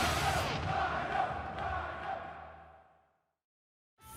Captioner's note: fans chanting